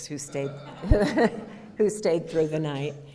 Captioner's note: audience laughter